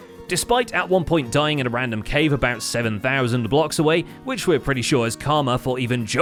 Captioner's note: none